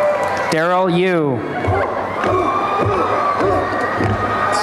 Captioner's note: chanting